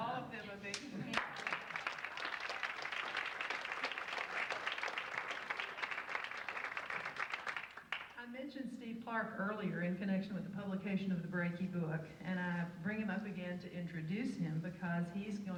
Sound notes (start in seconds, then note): 1.0 audience applauds